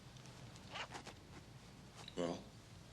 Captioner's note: zipper unzips